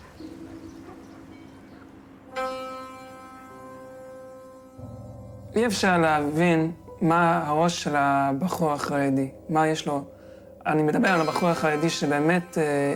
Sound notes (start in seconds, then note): 0.3 gentle music; 5.6 speaking in foreign language